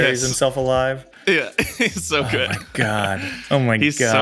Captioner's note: chuckles